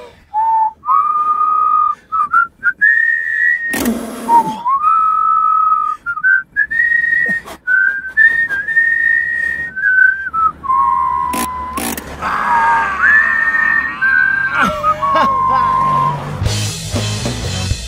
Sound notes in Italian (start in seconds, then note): 0.3 fischiettano; 12.1 Urla per la fatica; 12.4 fischiettano